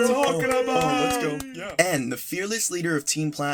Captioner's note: cheering